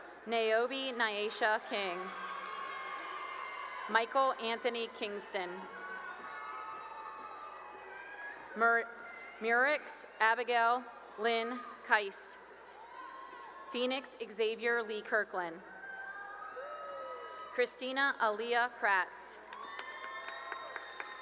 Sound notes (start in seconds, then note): 2.5 cheering; 7.1 cheering; 12.2 cheering; 15.5 cheering; 19.3 cheering and applause